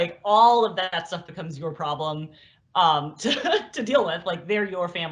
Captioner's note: laugh